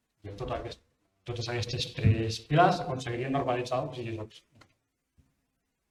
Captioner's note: in Catalan